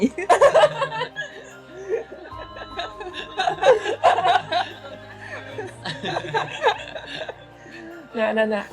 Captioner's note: group laughs